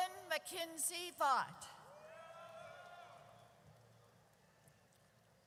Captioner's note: audience cheers